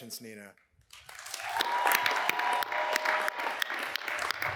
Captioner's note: cheers and applause